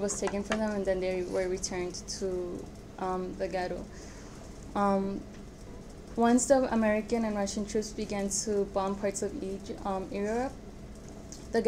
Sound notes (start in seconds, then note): none